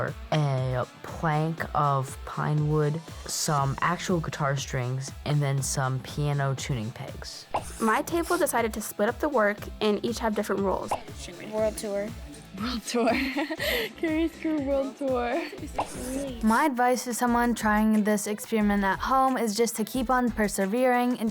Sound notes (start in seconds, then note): 7.5 video popping; 12.6 laughing; 15.7 video popping